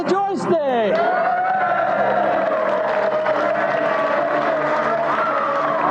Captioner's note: audience Cheering